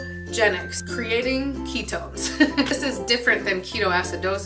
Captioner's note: laughing